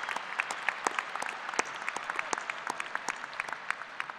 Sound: applause

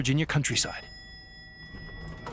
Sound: elevator bell dings

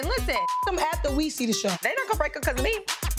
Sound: beep

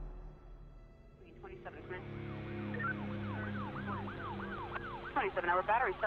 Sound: police radio sounds

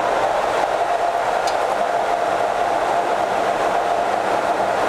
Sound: laser cutter whirring

